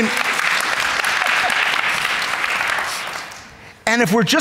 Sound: audience clapping

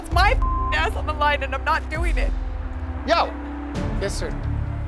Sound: beep

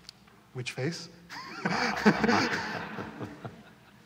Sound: laughter

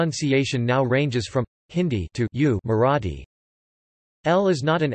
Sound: Hindi

